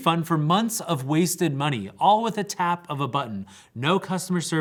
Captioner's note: none